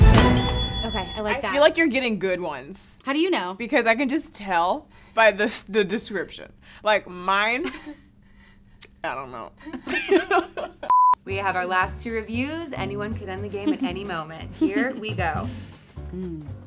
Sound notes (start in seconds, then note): 0.0 intense music; 9.6 all laughing